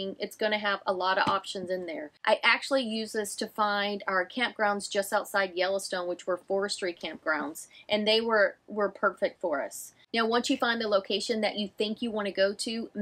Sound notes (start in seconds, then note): none